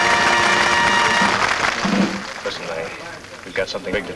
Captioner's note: patrons clap